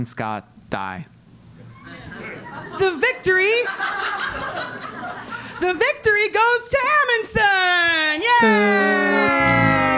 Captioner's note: laugh